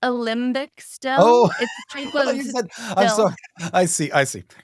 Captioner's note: chuckles